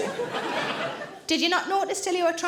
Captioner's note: audience laughing